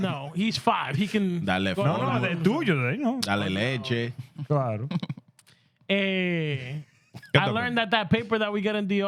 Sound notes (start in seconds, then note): 1.4 laughter; 1.4 speaking Spanish